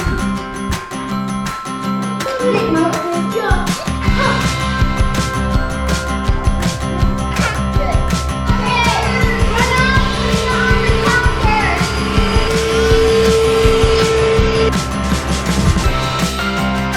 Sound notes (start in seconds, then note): 0.2 fun, upbeat music; 3.2 kids laughing and talking; 8.4 vacuum cleaner humming